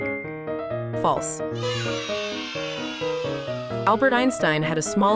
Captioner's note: children cheering